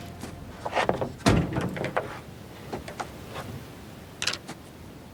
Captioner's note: wind whistling; boards clattering